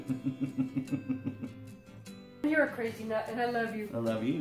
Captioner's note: giggles